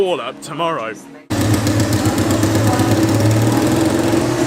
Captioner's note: loud engine sounds